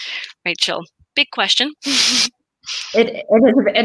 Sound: chuckles

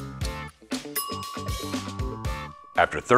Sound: timer ringing

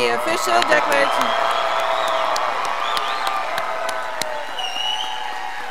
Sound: graduates applauding

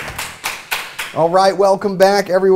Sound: applause

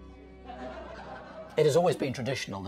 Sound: chuckling

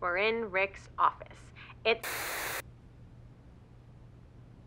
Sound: static hissing

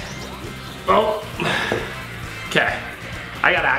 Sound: sighs

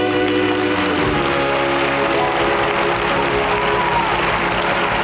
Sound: audience cheering

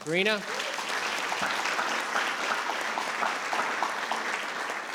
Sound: all clapping

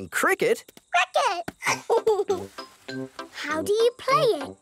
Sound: giggles

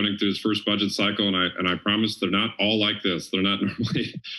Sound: laughs

